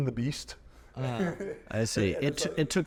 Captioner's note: chuckling